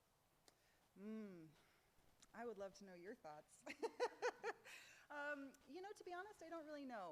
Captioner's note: laughs